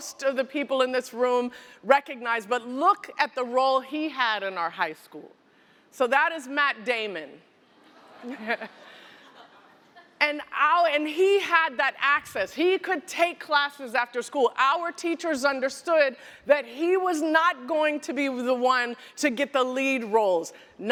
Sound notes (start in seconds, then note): 7.6 laughter